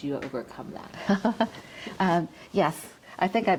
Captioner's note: chuckles